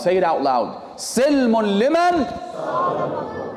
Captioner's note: Arabic